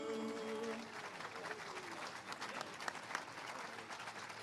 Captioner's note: all applauding